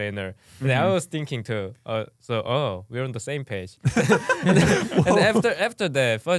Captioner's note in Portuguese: risos